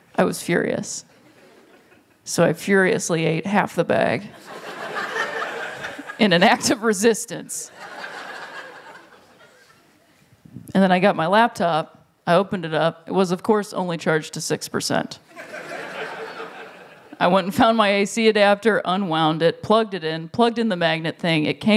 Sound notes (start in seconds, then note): 7.7 laughter